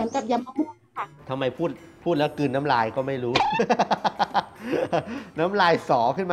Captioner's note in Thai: หัวเราะ